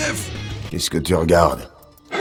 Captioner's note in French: Voix de Son Goku